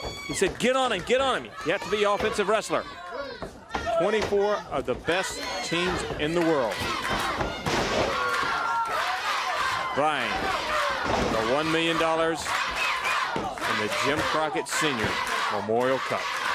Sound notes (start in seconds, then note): 10.3 crowd cheering